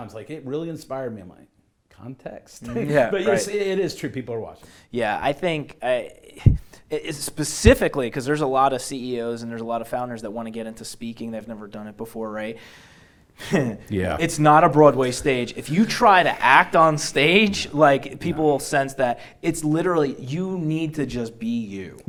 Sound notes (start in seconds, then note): 2.6 laughs; 13.4 laughs